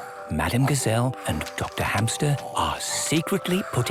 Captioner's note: whispering